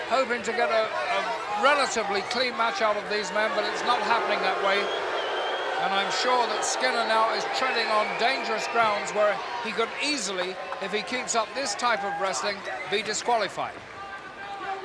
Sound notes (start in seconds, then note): 4.8 crowd booing